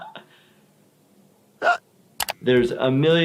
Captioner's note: laughter; hiccup